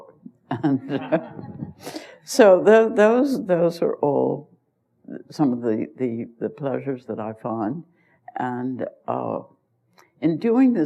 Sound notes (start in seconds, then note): 0.5 laughter; 0.6 laughs